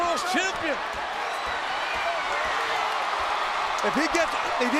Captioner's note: audience cheers